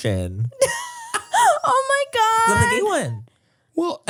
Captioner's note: laughs